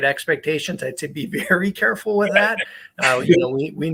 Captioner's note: laughs